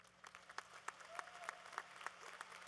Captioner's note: applause